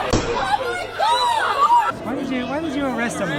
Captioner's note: screaming as child is ripped from his mother; more shouting